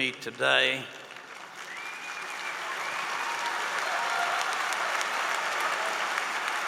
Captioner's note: applause